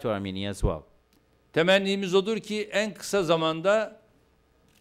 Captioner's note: non-english speech